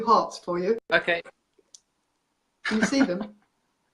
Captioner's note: laughs